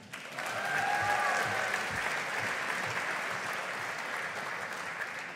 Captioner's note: audience applauding